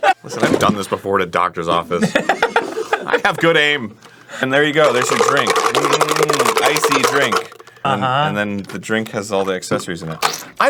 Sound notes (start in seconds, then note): 3.0 defensively; 4.4 cup rattling